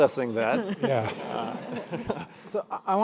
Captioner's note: crowd laughing